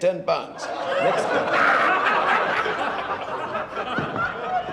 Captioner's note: laughter